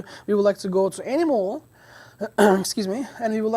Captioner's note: coughs